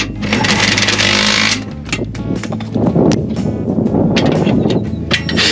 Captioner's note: impact wrench rattles